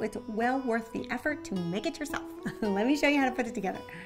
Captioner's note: laughs